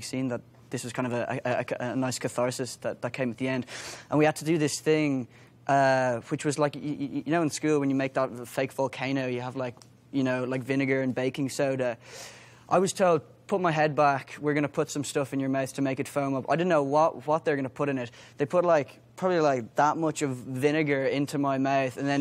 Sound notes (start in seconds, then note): none